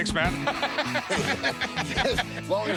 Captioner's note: laughter